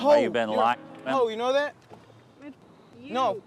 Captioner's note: muted